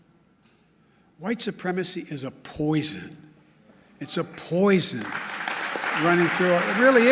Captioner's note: applause